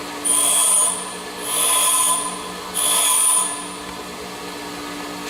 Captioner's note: metal buzzing against grinder